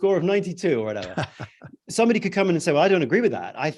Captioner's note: chuckles